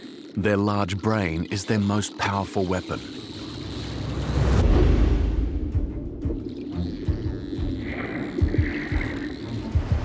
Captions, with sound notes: their large brain is their most powerful weapon. -[energetic music playing] -[dolphins clicking]